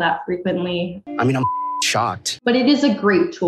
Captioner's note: beep